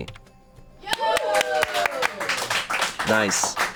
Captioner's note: audience cheering